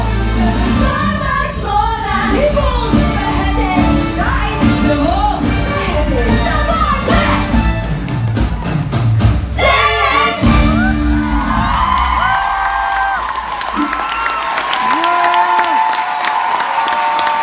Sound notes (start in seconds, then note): 10.7 mass applause